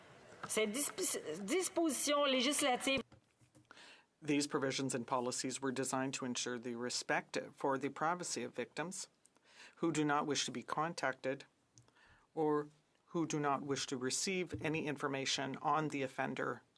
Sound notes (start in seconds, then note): 7.4 speaking French